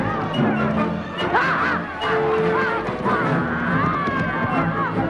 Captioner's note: townsfolk shouting; Hundra shouting